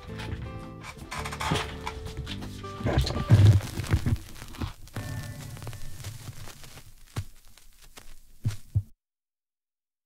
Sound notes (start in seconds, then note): 0.0 gentle music; 0.0 objects clattering